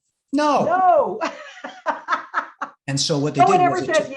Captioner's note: laughing